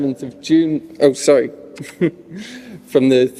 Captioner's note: he chuckles